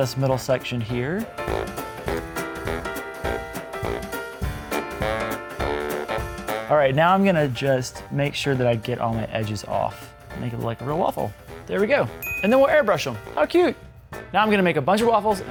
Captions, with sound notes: I'm gonna keep this kind of thick too because waffles are a little thick Waffles, don't have bubbles. *little voice*: Waffle it! Yeah. So we're gonna cut out this middle section here.